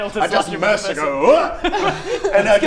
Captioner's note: hrrgh!